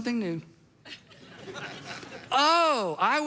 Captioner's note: congregation laughs